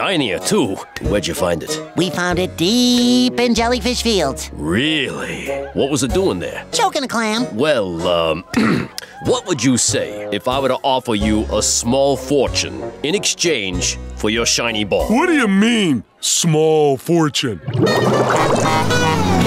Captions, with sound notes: It's heavier than I imagined. And shiner, too. Where'd you find it? We found it deep in Jellyfish Fields. Really? What was it doing there? Choking a clam. Well... [clears throat] What would you say if I were to offer you a small fortune in exchange for your shiny ball? What do you mean, small fortune?